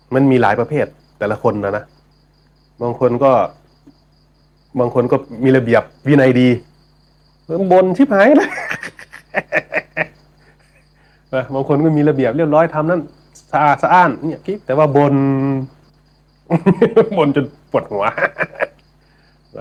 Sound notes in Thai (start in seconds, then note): 8.2 เสียงหัวเราะ; 17.8 เสียงหัวเราะ